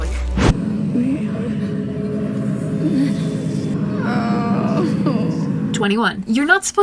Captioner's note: Catra whimpers then groans